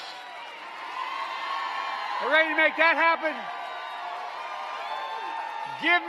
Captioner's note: applause